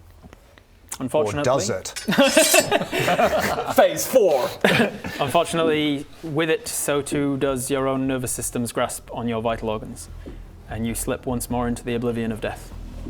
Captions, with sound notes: Unfortunately or does it... *sching!* Phase 4! unfortunately with it so too does your own nervous system's grasp on your vital organs and you slip once more into the oblivion of death